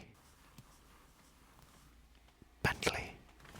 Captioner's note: soft carpety noises